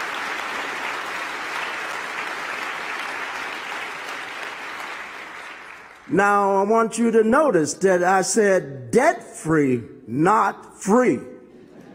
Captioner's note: applause